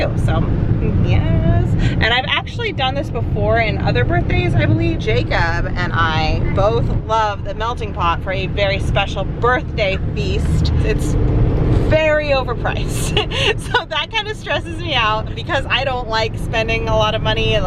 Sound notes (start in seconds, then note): 13.0 laughs